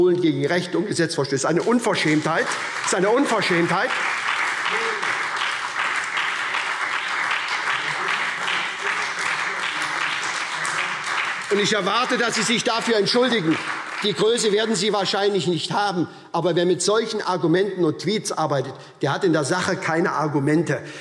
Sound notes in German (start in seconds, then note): 3.9 Beifall SPD und Freie Demokraten